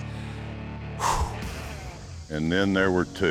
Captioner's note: exhales